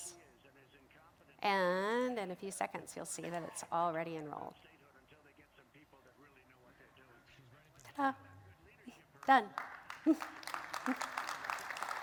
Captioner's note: applause